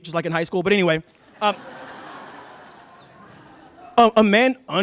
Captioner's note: laughter